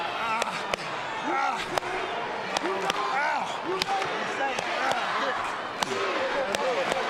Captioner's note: audience chanting; hand slapping